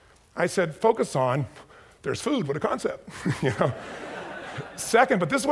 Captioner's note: chuckles